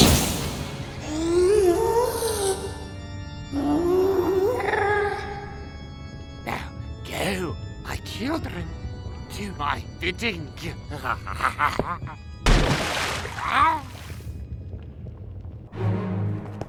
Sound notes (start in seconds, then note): 11.5 cackles; 13.2 strange gargle